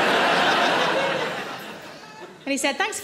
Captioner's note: audience laughing